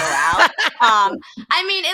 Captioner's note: laughing